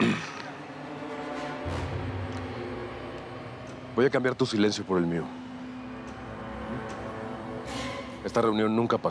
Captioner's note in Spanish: carraspea